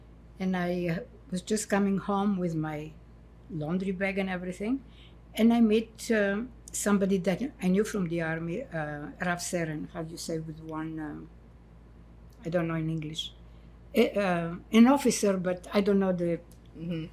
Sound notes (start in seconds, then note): 9.0 hebrew